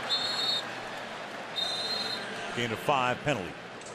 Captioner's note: whistle